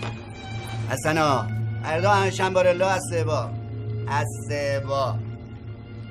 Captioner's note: phone ringing; talking in a made up language